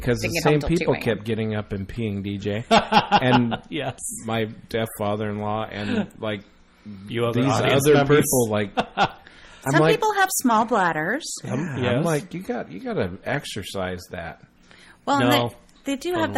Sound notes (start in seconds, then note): 8.4 DJ laughs